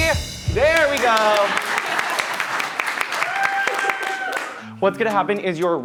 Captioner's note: everyone applauding